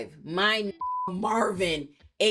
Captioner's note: beep